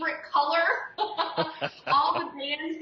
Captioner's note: laughs